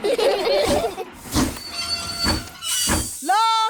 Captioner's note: laugh; train chugs